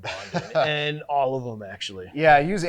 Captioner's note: laughing